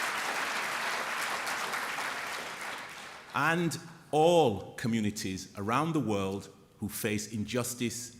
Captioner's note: applause